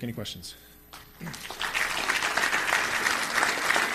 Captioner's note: applause